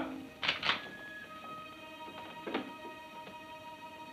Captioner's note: gun clicks